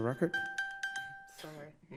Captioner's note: bell rings